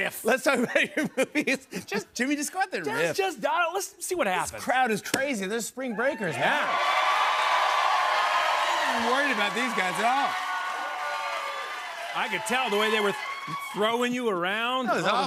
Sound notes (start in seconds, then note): 7.0 cheers and applause